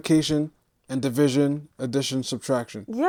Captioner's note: none